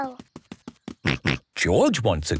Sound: snorts

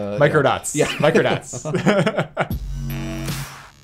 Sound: laughs

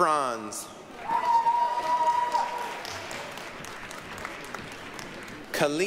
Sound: applause, cheering

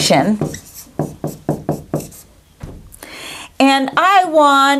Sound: sound of writing

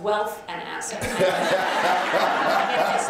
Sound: laughter

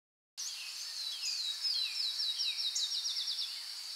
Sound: birds chirping

